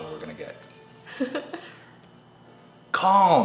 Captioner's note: chuckles